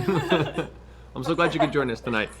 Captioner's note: laughter